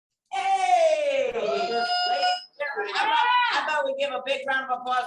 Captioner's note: audience cheering